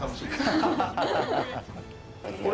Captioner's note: laughter